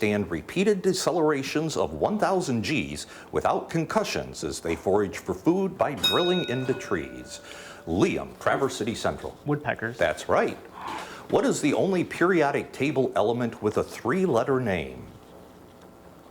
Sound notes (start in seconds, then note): 6.0 bell dings